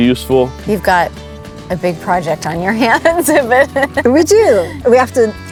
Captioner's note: chuckles